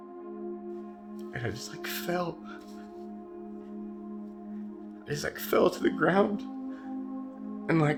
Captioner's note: voice breaks